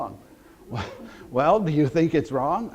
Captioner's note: audience laughter